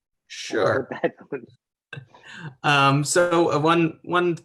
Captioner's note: laughs